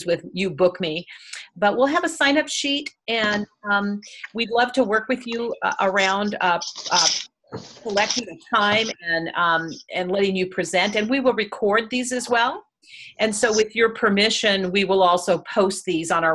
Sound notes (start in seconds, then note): 5.2 audio warps